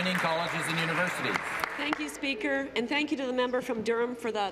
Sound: applause

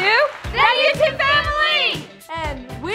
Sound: group Yelling

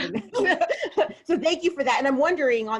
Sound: laughing

